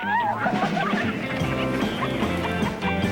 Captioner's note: shouts of excitement; giggling